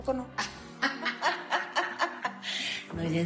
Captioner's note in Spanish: Risas